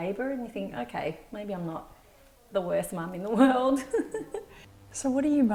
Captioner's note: laughs